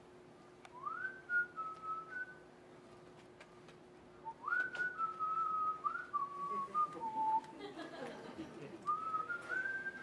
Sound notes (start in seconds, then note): 0.7 whistles the opening notes; 5.8 continues whistling